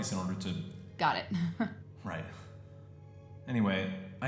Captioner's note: chuckle